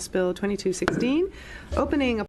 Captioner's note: gavel bang